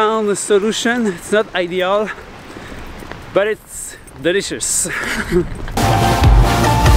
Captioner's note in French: rires